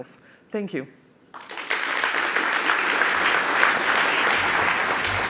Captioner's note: applause